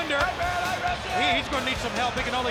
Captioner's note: crowd chatter